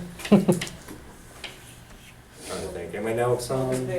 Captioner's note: laughter